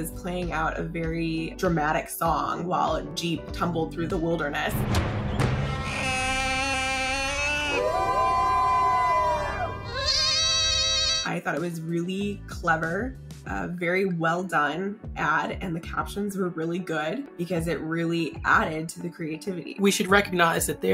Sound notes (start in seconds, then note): 4.8 chest Percussion; 6.4 wolf Quintet Howls